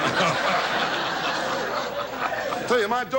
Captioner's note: audience laughs